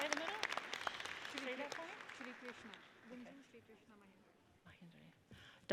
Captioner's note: people chattering